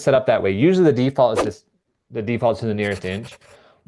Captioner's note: image whooshing; pencil scribbling